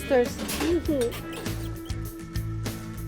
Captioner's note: kisses